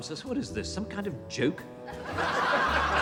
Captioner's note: laughing